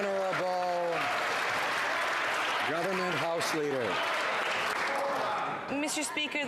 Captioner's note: some Applause